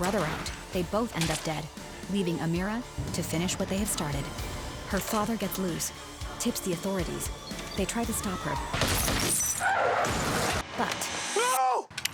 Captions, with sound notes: They both end up dead, leaving Amira to finish what they have started. Her father gets loose. Tips the authorities. They try to stop her. [gunshots] But No!